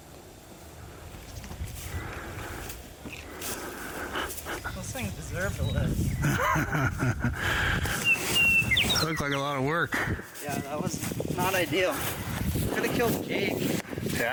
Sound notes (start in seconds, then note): 1.9 leaves rustling; 6.2 laughing hysterically